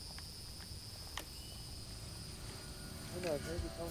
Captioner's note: tape player clicks; radio Announcer